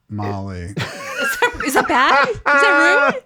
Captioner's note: laughing